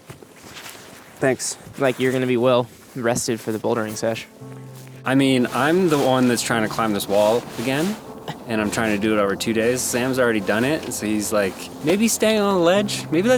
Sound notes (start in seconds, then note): 8.2 laughs; 11.6 laughs